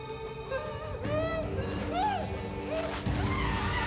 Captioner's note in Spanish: gemidos